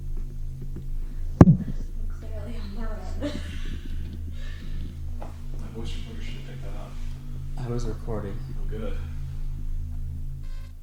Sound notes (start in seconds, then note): 4.1 laughing